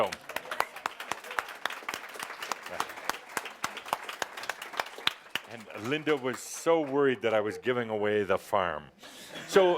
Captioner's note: audience applause